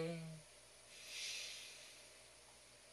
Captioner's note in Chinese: 吸氣